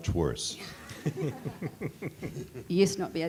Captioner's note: everyone chuckling